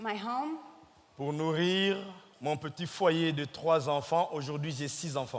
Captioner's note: speaking in French